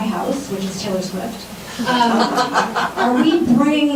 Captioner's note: laughing